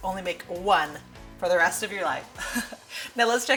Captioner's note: laughs